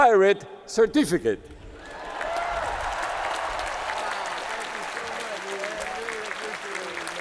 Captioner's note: applause